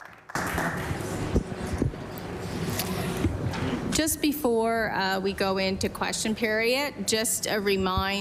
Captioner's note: applause